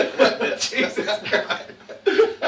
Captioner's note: laughing